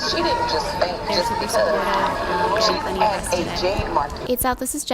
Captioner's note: baby crying